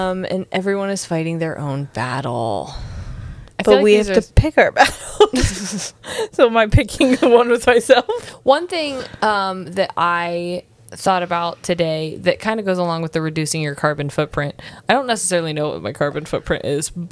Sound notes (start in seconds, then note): 5.0 laughs